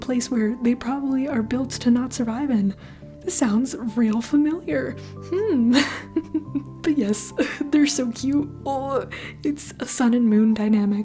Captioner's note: chuckle